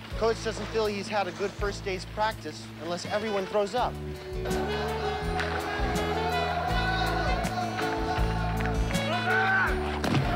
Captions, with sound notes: - Coach doesn't feel he's had a good first day's practice unless everyone throws up. (players grunting)